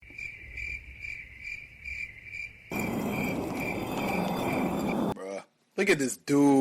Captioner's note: crickets